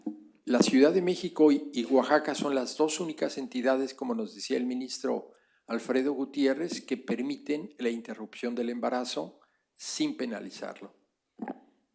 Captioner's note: speaking spanish